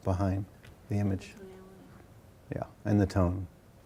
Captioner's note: woman speaking faintly